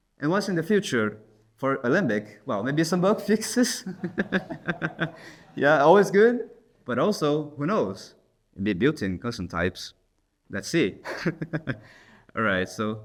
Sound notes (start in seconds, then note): 3.6 laughs; 11.0 laughs